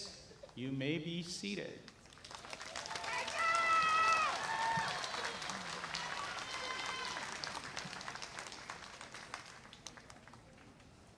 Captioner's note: applause